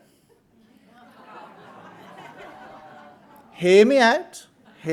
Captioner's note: audience laughing